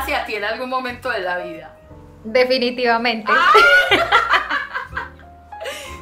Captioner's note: laughs